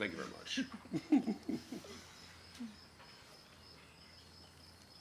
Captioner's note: Edith chuckles